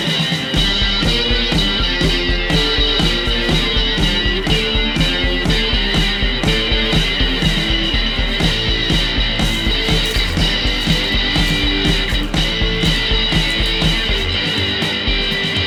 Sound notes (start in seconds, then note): 10.3 grass rustling